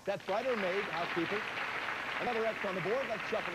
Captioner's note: audience applauding